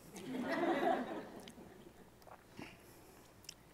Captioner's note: audience laughs